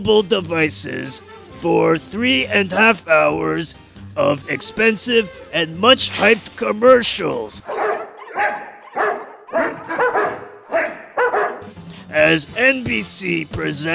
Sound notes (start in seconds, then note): 7.6 barking to the tune